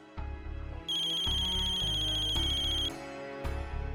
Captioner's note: phone ringing